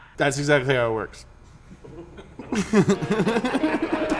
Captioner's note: everyone laughs